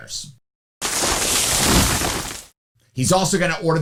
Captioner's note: bangs